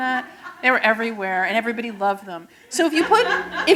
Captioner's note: laughter